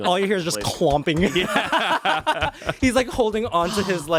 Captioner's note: everyone laughs